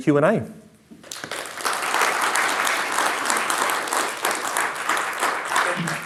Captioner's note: attendees applauding